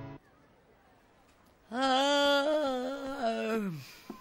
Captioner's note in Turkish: Esneme sesi